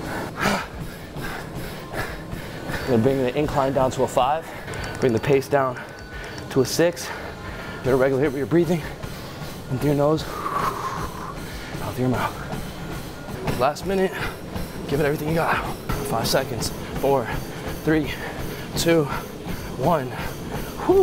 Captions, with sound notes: (heavy breathing) Bring the incline down to a five. Bring the pace down to a six. Better regulate your breathing, in through your nose (inhale) out through your mouth. Last minute, give it everything you got. Five seconds. 4, 3, 2, 1. Whew.